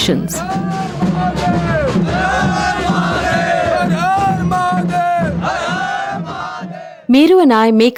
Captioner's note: drumbeats; shouting in chorus